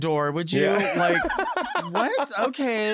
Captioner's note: laughs